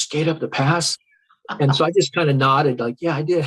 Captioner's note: interviewer laughs